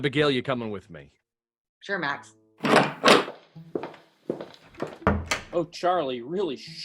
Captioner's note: footsteps and door opens, closes